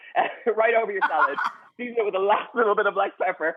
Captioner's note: Rachael laughs